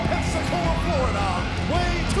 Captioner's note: crowd cheering